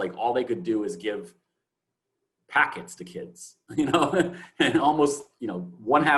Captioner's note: chuckles